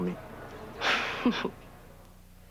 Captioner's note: Rire